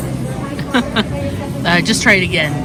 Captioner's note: laughter